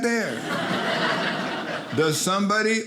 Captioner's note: audience laughing